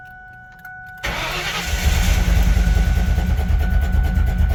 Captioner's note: engine cranking; engine idling rough